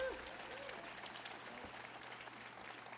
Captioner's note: applause